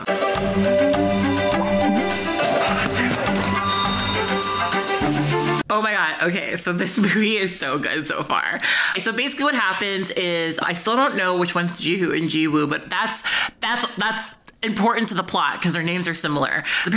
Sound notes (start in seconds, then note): 0.0 upbeat ambient music; 2.9 speaking Korean